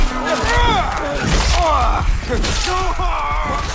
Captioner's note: trumpet blaring; men grunting